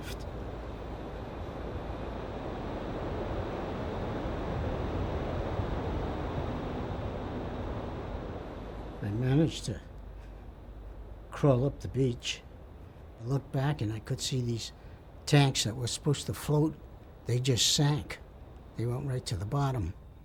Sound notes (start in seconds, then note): 2.9 waves gushing